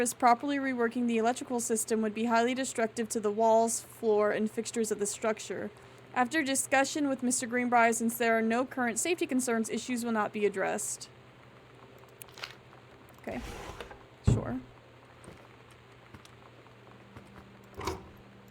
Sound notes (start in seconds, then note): 14.2 loud Thunk